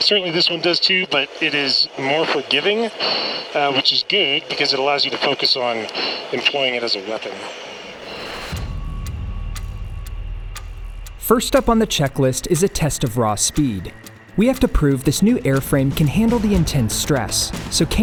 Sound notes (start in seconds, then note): 7.9 tense music; 7.9 jet whooshing